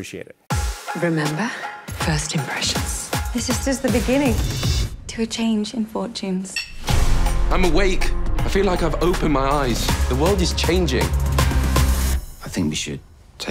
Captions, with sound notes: Appreciate it. - Remember, first impressions. (upbeat music) - This is just the beginning. To a change in fortunes. (glasses clink) (dramatic music) - I'm awake. I feel like I've opened my eyes. The world is changing.